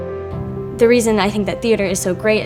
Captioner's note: voiceover